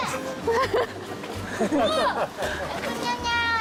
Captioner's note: failed to hold back laughter